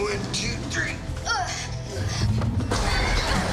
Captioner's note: grunts